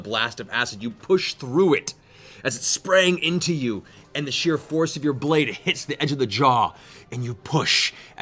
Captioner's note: none